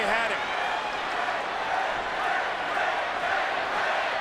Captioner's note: crowd cheering